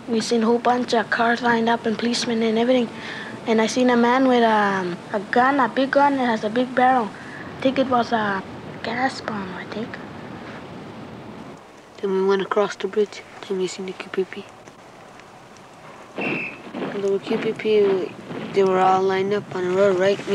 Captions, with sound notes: we seen a whole bunch of cars lined up, and policemen, and everything. And I seen a man with a gun, a big gun, it has a big barrel. Think it was a gas bomb, I think. - Then we went across the bridge and we seen the QPP. (whistle trills) (shoes stomping) The QPP, they were all lined up on a road, right?